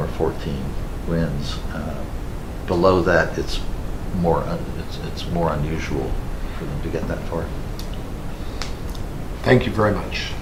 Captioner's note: snaps his fingers